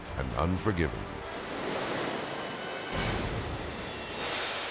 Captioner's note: waves crashing